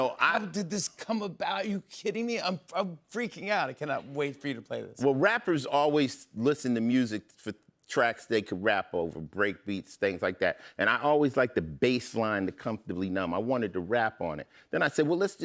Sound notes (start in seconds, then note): none